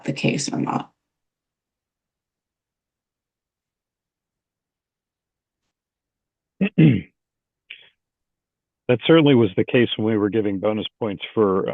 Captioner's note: pause